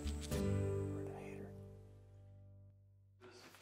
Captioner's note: whispering